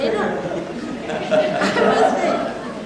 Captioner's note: Laughter, everyone laughs with Mother